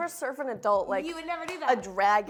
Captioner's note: claps